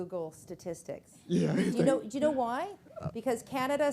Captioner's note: chuckles